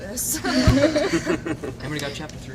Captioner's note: laughter